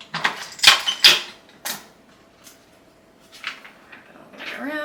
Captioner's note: dispenser clacking